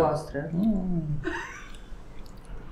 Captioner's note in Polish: śmiech